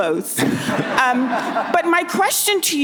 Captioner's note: audience laughs